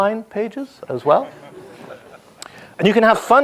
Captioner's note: audience laughs